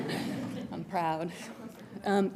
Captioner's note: audience chuckling